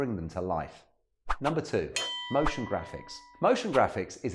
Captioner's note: bell rings